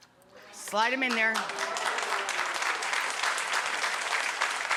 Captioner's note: audience applause